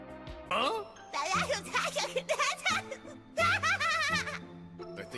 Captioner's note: mindless babbling